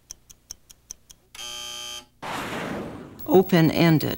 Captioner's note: buzzer